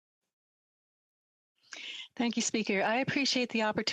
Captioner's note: speaking French